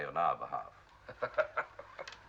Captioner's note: chuckles